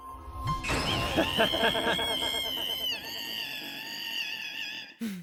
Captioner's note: scream